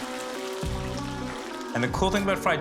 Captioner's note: sizzling